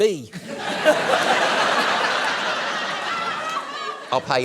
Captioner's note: laughter